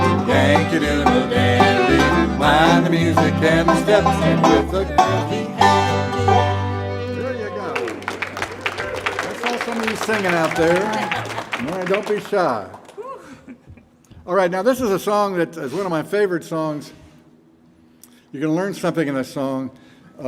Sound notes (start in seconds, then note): 7.3 audience cheer and applaud